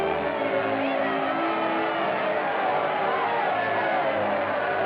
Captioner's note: crowd cheering